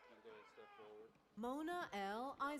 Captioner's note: none